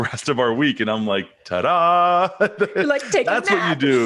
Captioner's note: chuckles; laughing